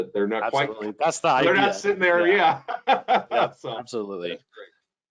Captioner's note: laughing